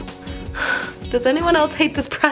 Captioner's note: sigh